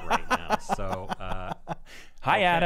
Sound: laughing

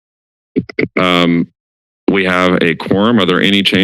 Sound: mic rustle

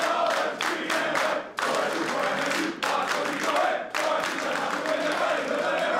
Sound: clapping and chanting continues

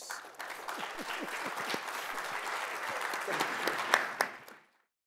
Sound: audience applauding

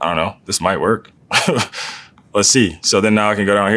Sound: laugh

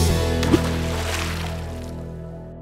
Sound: water splash

